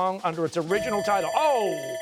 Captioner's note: bell rings